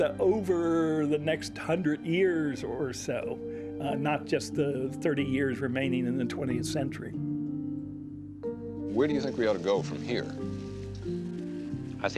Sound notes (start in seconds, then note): none